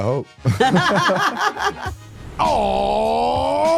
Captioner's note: both laugh